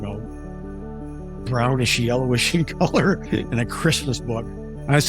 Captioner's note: laugh